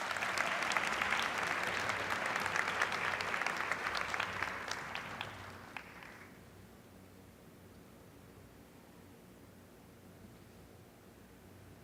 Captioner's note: applause